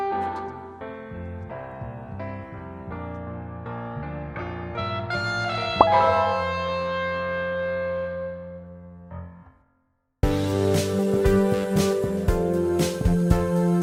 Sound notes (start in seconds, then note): 0.3 happy piano music; 5.8 popping noise